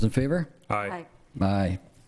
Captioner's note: in Unison